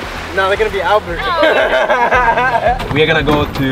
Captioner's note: laughs